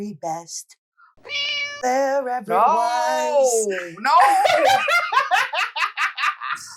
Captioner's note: meow